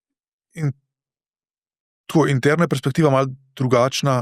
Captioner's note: coughing